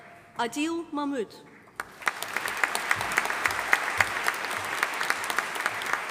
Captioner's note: audience applauding